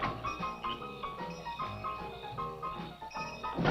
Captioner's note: bell ringing